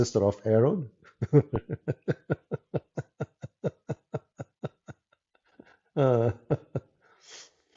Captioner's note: Ketawa